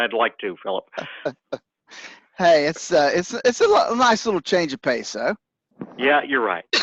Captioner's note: laughs